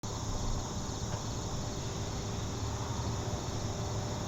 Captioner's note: crickets chirping